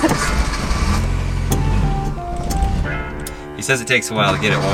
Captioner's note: car engine revs